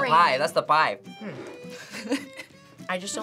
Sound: laughs

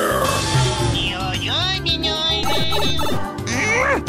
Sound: mocking

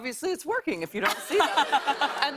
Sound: laughter

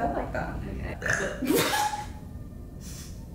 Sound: Victorian Ghost BeLcHeS

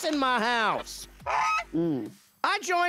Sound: goose honks

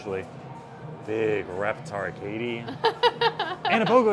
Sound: laughs

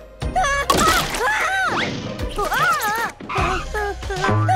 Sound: Augie yelling

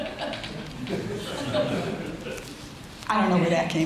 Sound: audience laughs

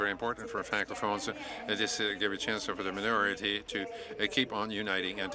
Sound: speaking French

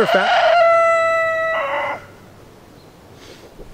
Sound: rooster crows

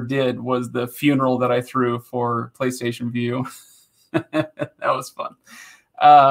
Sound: laughing

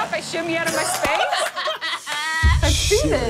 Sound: laughing

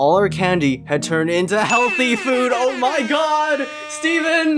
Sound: air Horns

